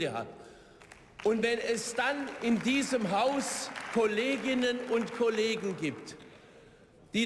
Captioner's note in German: Beifall